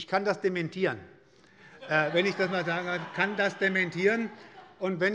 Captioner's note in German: Allgemeine Heiterkeit